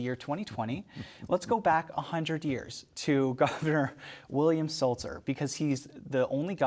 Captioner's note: laughs